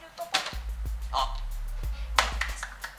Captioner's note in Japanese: 拍手